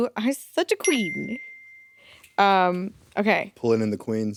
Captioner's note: bell dings